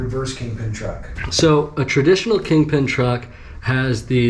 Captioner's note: pat